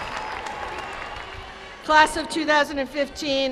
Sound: cheers and applause

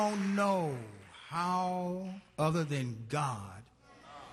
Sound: applause

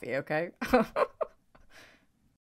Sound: laughs

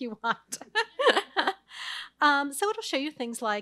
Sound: laughs

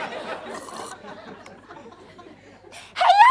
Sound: audience laughter; sips water

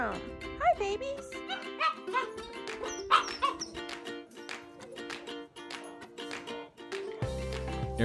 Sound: puppy barks

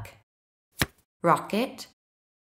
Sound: the sound of a card being turned over can be heard

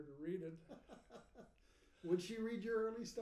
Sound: laughing

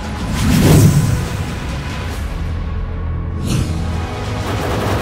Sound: intro whooshing; dramatic music

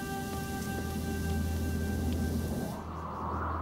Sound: fence hissing; wind blowing

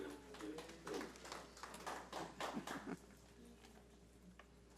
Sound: audience applauds

